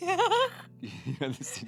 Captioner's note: laughter